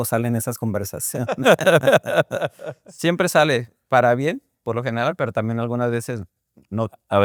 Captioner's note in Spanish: risas